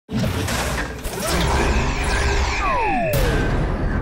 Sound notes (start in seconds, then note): 1.2 graphic whirs